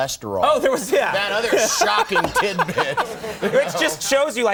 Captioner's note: O'Brien laughing